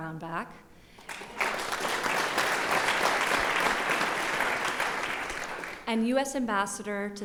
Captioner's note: applause